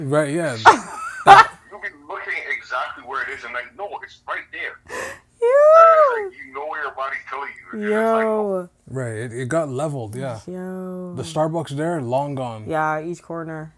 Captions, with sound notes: Right, yeah. (laughing) You'll be looking exactly where it is and I know it's right there. (laughing) It's like you know where your body's telling you. Yooo It's like, right. It got leveled, yeah. Yeah. The Starbucks there, long gone. Yeah, each corner.